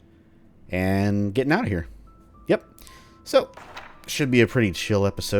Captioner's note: journal closes